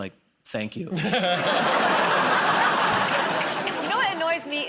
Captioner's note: laughter